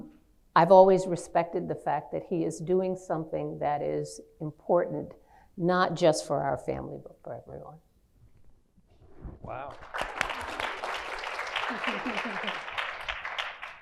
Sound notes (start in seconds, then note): 9.6 clapping